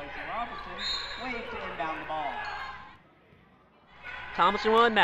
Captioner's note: whistle drowns out announcer